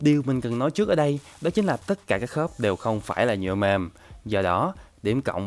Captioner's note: soft plastic